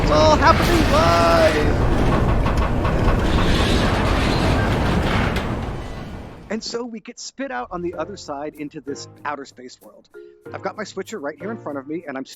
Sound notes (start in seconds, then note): 1.7 loud rumbling sounds; 1.7 objects rattling